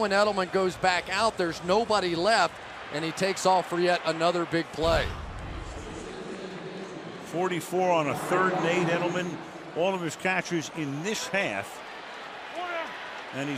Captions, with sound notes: But then when Edelman goes back out, there's nobody left. And he takes off for yet another big play. [pa announcement] 44 on a third and 8. Edelman, all of his catches in this half.